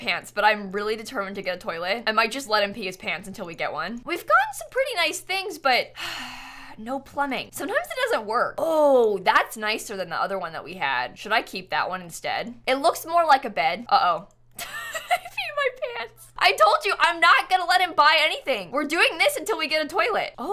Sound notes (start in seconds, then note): 6.2 sighs